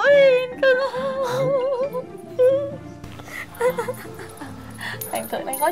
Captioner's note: laugh happily